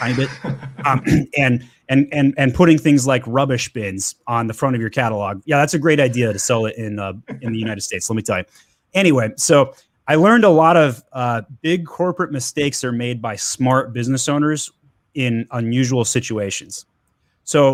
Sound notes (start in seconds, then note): 0.0 laughs; 7.1 laughs